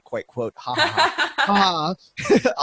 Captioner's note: laughing